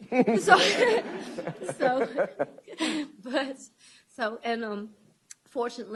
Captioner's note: laughter